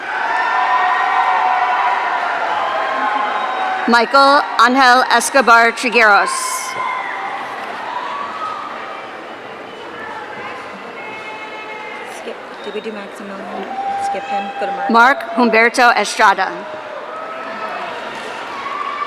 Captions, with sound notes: (audience cheering) Michael Anhell Escobar Trigueros. (audience cheering) Mark Humberto Estrada.